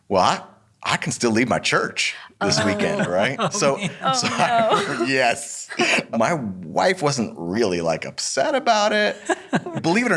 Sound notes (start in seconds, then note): 2.4 chuckles; 9.2 laughs